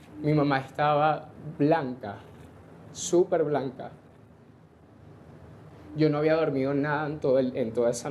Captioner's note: voice breaks